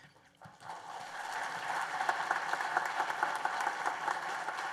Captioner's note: applause